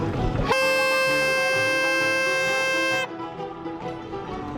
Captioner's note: horn blowing